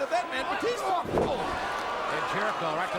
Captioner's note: wrestlers thudding